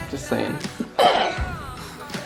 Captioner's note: snorts